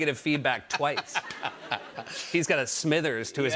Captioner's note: laughter